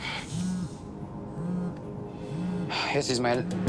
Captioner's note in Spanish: Vibra el celular